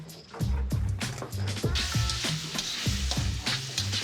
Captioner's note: sizzling